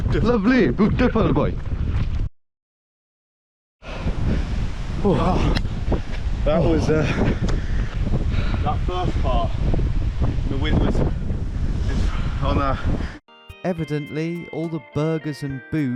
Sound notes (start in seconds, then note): 3.8 panting; 7.0 both panting; 9.5 wind whooshing; 13.3 gentle music